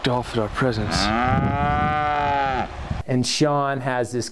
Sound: cow mowing

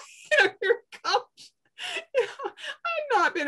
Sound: laughs

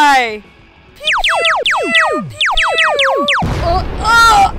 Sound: pew pew pew pew pew

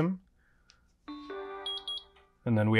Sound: machine beeps

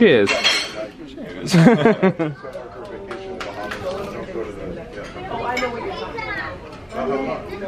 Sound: they laugh

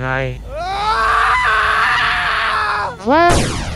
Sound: scream.wav

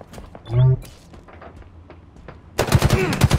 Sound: electronic whirring; grunts

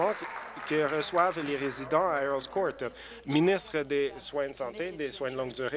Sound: applause

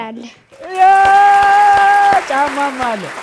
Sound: applause

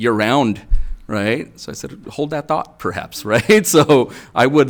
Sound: chuckles

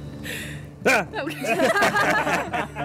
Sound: laughing nervously; yelling abruptly; everyone laughing amusingly

